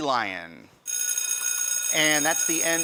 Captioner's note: buzzing